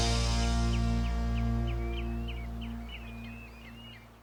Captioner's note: birds tweeting